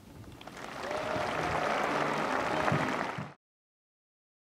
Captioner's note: applause